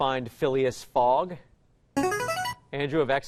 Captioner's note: chiming